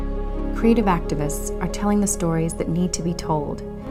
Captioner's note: woman's Voice